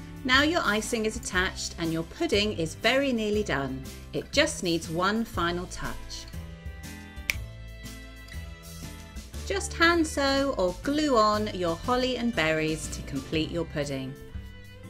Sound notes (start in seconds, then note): 7.2 click